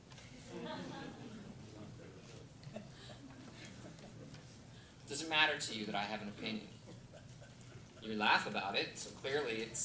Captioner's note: laughter